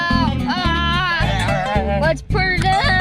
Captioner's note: yelling